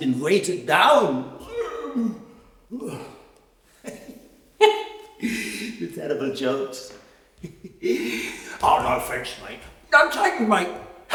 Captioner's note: laughs and coughs